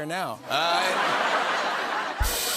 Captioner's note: laughter; rimshot